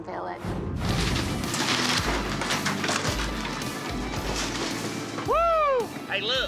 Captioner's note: crunching, clattering sound